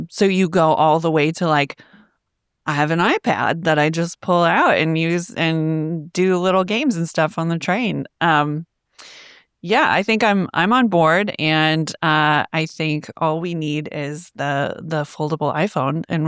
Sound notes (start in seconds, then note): none